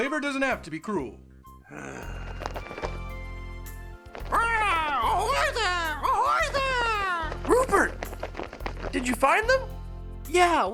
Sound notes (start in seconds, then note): 2.4 גניחה משעממת; 4.8 צווחת